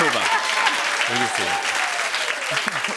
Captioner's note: cheering and applause; chuckles